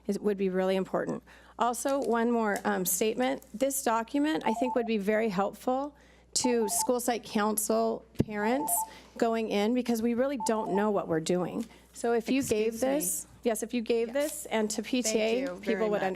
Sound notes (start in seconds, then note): 4.4 timer beeps; 6.4 time beeps; 10.4 timer beeps